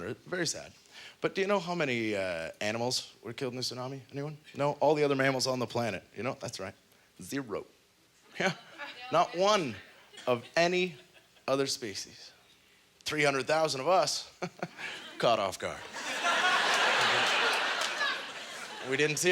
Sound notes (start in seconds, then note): 11.8 chuckles; 15.8 audience laughter; 19.0 chuckles